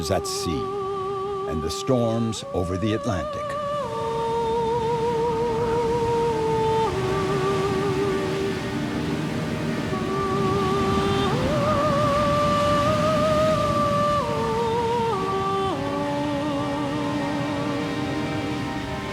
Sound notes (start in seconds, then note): 3.8 somber music; 5.9 waves crashing